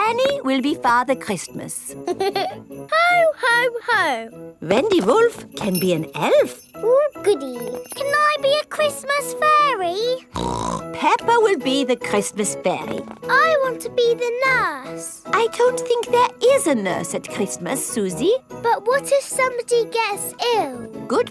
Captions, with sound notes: Danny will be Father Christmas. (GIGGLES) Ho! Ho! Ho! Wendy Wolf can be an elf! Ooh, goody! Can I be a Christmas fairy? (SNORTS) Peppa will be the Christmas fairy! I want to be the nurse! I don't think there is a nurse at Christmas, Suzy. But what if somebody gets ill?